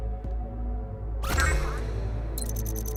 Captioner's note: console beeps; console chirping